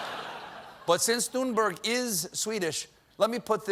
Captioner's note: laughter